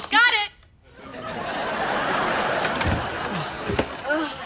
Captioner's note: audience laughter